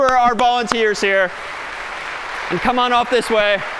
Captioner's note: applause